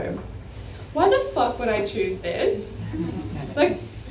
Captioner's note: laughter